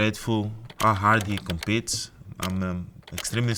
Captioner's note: keyboard clicking